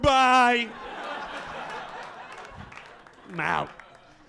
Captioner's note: audience laughing